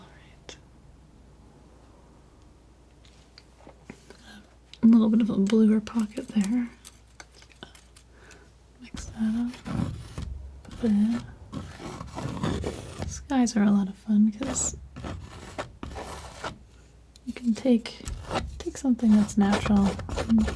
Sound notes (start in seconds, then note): 0.3 scratching; 6.7 scratching; 10.5 scratching; 14.3 scratching